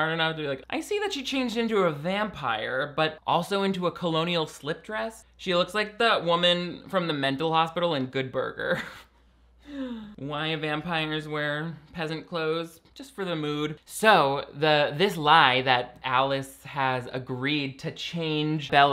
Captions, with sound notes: to be like "I see that she changed into a vampire but also into a colonial slip dress." She looks like the woman from the mental hospital in "Good Burger." (laughs) Why vampires wear peasant clothes. Just for the mood. So this lie that Alice has agreed to change Bella